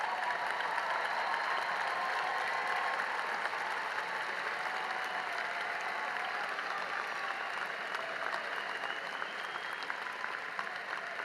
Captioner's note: cheering and applause